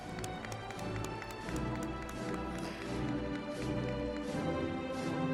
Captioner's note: audience applauding; celebratory music